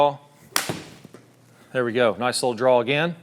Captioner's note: ball cracking